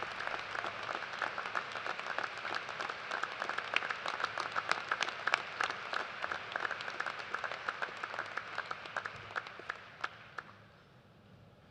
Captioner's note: applause